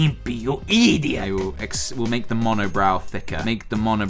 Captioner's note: normal voice